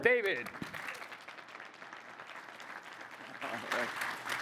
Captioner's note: audience applauding